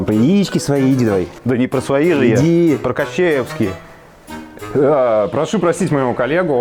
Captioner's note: sarcasm; sarcasm